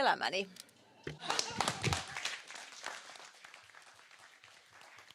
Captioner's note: applause